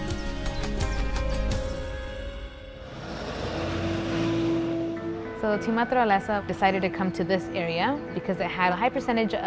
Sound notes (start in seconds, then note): 0.4 cheerful music continues; 2.5 traffic noise